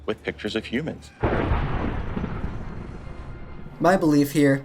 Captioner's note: dramatic thunder sound